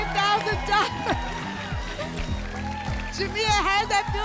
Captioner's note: applause and cheering